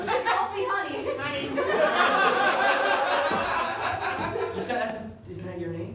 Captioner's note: laughter